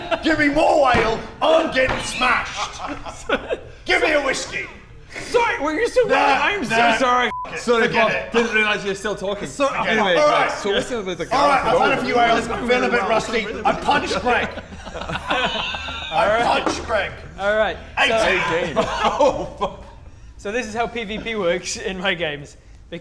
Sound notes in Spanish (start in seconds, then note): 10.3 Murmuros; 14.7 Risas